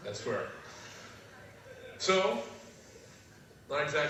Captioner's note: laugh